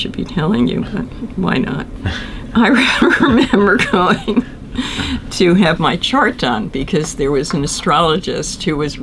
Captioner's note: laughter